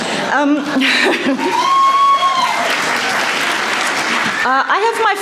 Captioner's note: laughter, cheering, applause